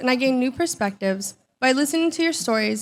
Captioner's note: none